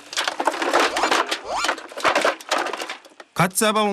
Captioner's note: thud~